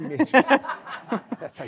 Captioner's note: everyone laughing